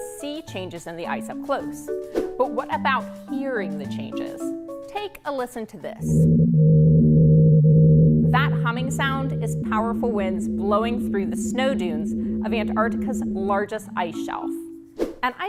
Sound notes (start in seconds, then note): 6.2 winds humming